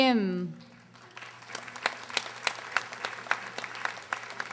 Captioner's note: audience applauding